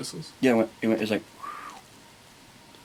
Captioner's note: whistling